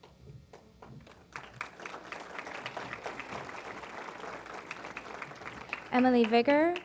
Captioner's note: applause